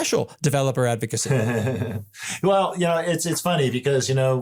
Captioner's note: laugh